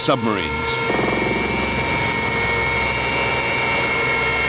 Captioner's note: engine roars